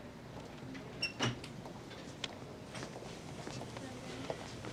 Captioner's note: door creaks